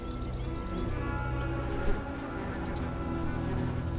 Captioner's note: insect buzzes